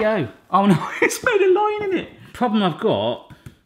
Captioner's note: laughing